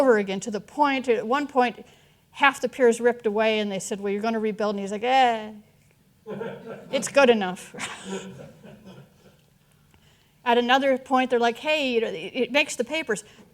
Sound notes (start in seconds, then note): 6.3 audience chuckling; 7.7 all chuckling